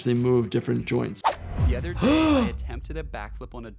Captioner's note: gasps